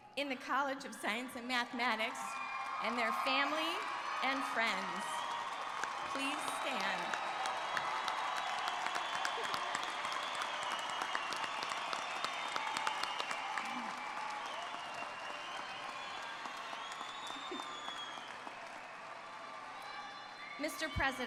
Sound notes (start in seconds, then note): 6.1 cheers and Applause